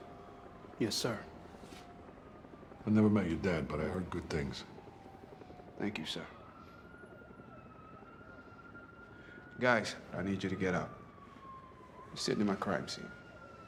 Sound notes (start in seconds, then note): 7.0 helicopter whirring; 7.0 sirens blaring in distance